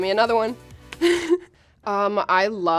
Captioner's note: laughing